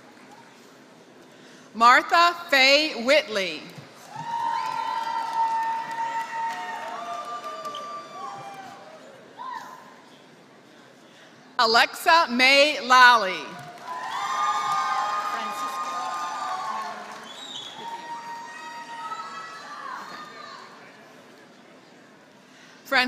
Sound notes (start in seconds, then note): 0.0 applause; 7.9 applause; 13.5 applause